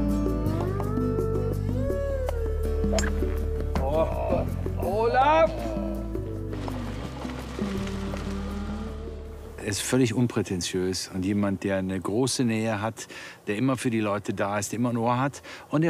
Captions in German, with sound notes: (Anerkennende Laute) Olaf! (Ruhige Musik) Er ist völlig unprätentiös, und jemand, der eine große Nähe hat, der immer für die Leute da ist, immer ein Ohr hat,